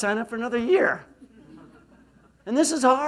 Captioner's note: laughs